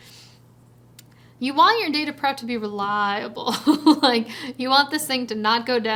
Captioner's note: chuckles